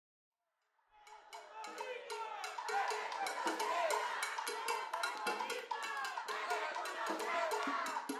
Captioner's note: crowd Chanting